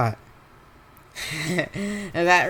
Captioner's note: laughs